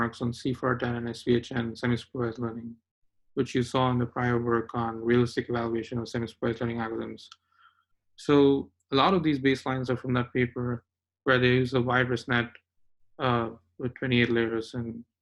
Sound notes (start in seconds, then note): none